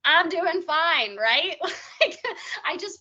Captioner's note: laughing